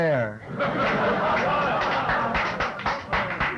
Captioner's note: laughter